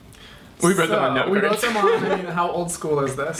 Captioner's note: laughs